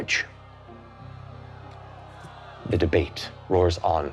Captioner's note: crowd shouting